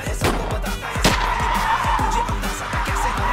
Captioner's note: Gunshot